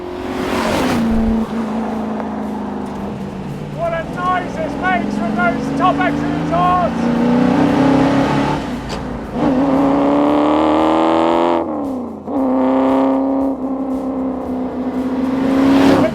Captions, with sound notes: (engine roaring) What a noise this makes from those top-end exhausts. (engine roaring)